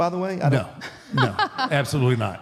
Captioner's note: Michelle laughs